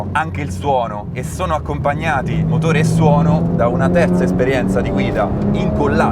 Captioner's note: engine and sound